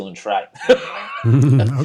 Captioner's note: laughing